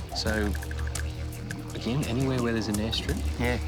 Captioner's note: light aircraft engine whirring